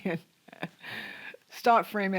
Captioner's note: laughs